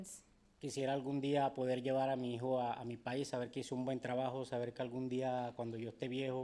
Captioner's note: speaking in foreign language